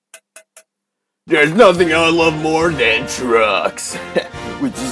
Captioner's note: heh